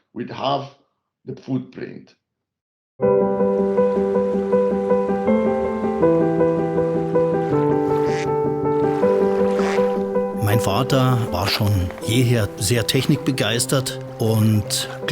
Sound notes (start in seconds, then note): 3.3 bright piano music; 7.5 bird squawks; 10.7 speaks foreign language